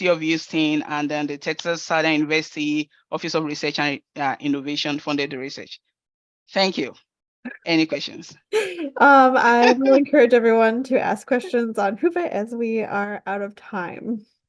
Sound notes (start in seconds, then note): 9.6 laughing